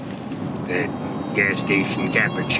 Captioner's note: Imitating Slingblade